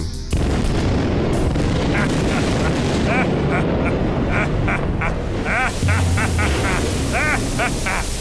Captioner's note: an explosion sound